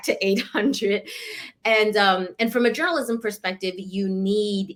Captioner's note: laughter